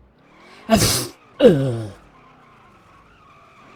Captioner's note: sneeze